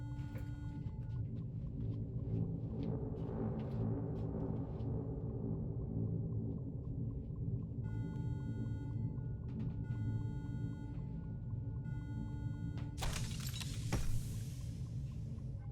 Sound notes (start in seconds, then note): 1.9 deep foreboding music; 8.1 alarm blares steadily